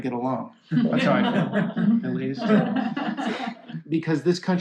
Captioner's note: laughter